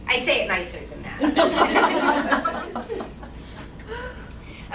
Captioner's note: laughing